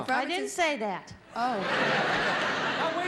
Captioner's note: audience laughing